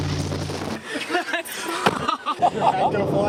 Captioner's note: storm chasers laughing